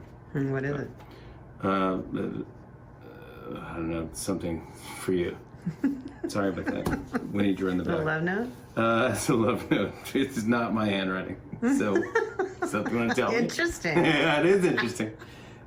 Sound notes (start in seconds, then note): 5.6 laughs; 11.6 laughs